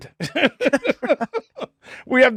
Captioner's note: laughing